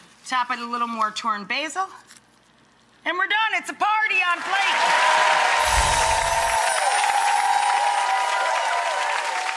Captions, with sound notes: top it with a little more torn basil and we're done, it's a party on plate. (audience applauding and cheering)